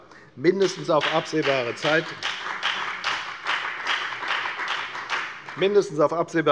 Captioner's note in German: Beifall bei der FDP